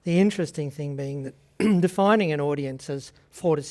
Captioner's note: clears throat